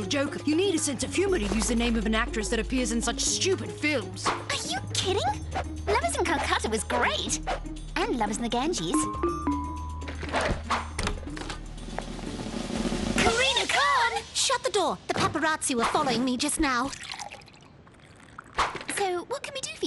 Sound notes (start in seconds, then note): 8.9 doorbell ring; 10.0 door opening